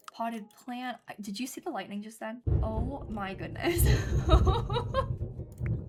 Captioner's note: thunder